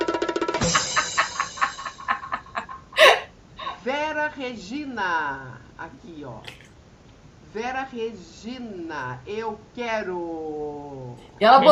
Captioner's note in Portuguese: risadas